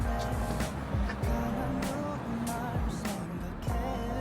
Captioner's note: sip